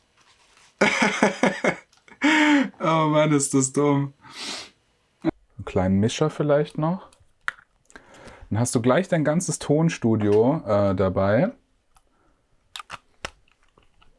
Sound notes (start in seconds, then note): 0.8 laughs